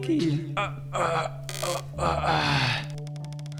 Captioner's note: grunting; floor creaking